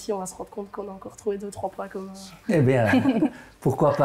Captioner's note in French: rires